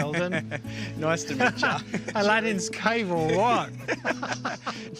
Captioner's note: laughs; laughs; both laugh